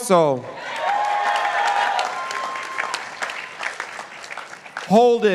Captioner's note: participants applauding